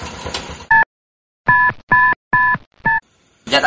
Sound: phone beeping

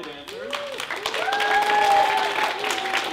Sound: clapping

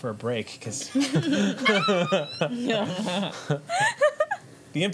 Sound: laughter

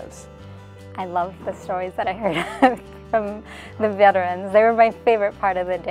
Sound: laugh

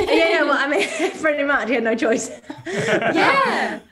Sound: all laugh

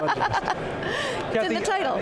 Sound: laughing

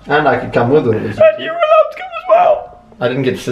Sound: crying

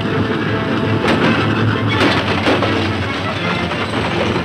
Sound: gunshots

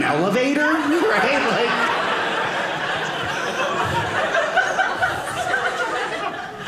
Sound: audience laughing

